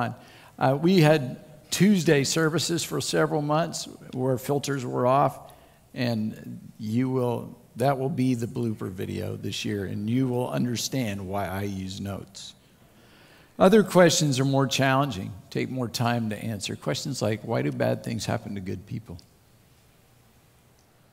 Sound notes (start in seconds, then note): none